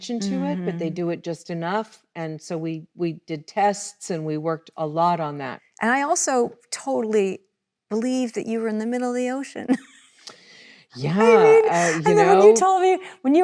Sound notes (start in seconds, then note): 11.0 laughs